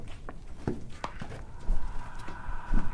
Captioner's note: footsteps clomping; inhuman gasp